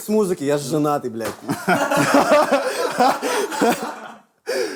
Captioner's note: all laugh